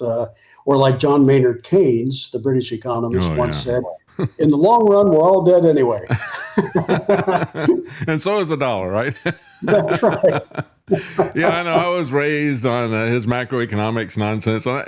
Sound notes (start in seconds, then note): 8.9 laughing